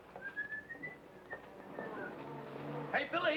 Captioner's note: Red whistling